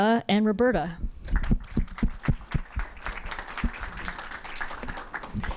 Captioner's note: audience clapping